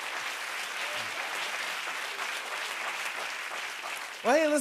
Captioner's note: cheers and applause